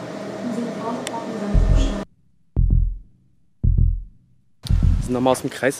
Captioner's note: heartbeats